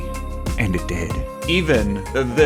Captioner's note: bad ASMR voice